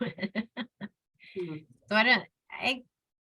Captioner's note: laughs